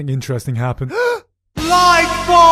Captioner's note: awe-inspired gasp